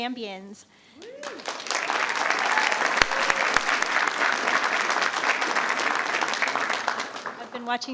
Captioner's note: attendees cheering; attendees applauding